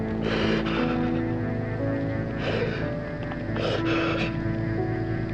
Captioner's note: Oliver sobbing